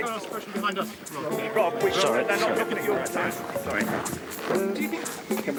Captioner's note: photographers chattering